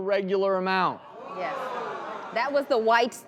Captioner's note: audience groans